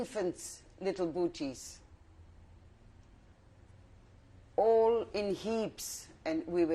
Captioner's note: pauses for 3 seconds